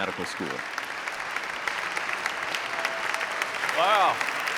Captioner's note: audience clapping